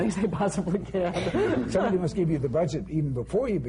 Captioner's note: laughs